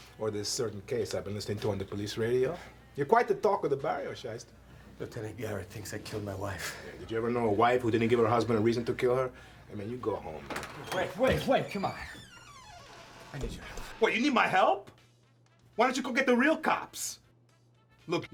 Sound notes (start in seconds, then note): 12.2 door creaks